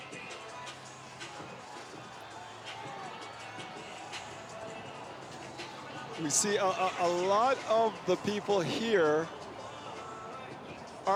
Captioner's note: cheering